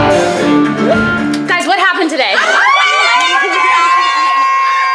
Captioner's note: screams